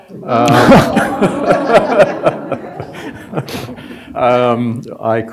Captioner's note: laughter